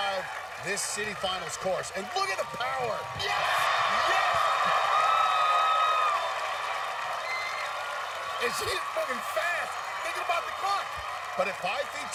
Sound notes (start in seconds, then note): 5.4 cheers and applause